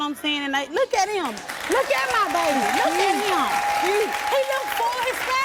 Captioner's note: applause